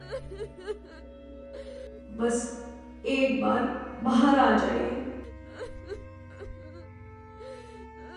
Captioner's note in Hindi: रोने की आवाज़